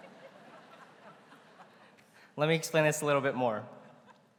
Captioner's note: laughter�